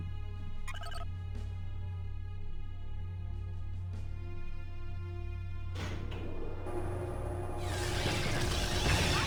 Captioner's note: beeps; tires screech